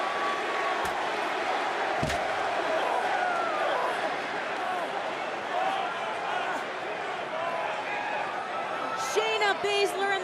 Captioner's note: crowd chatter